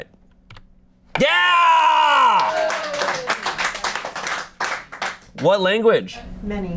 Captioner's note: audience cheering